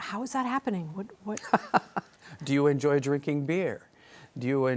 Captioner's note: chuckles